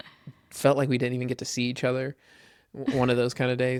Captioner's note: laughs